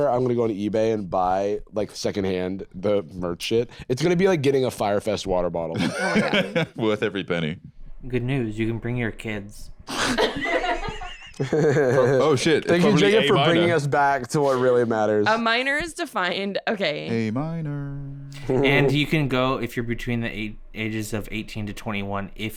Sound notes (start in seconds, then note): 10.0 scattered laughter